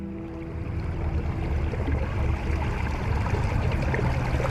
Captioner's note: boat motor burbling